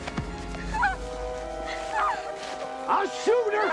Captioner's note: Hanna whimpering